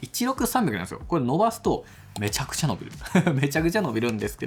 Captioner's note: laughs